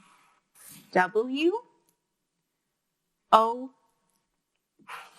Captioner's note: marker scraping